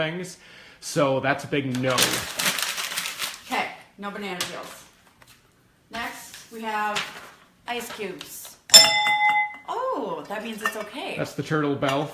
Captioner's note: ding